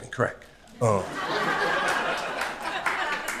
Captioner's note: crowd laughter